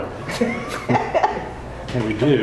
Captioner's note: group laughing